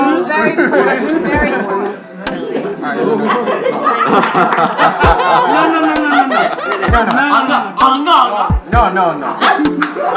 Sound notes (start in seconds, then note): 2.9 laughter